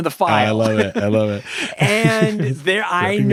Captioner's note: both laughing